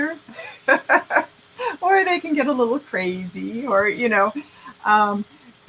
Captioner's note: laughing